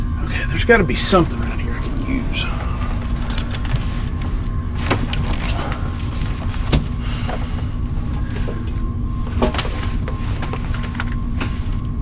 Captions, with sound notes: - Okay, there's gotta be something around here I can use. (seatbelt clicks)